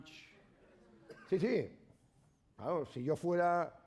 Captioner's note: speaking spanish